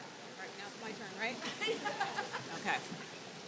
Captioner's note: laughs